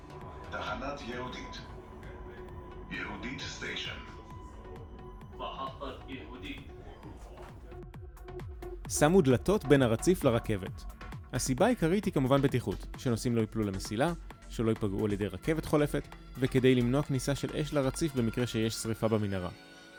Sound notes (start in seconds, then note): 0.3 Hebrew Announcement; 5.4 arabic Announcement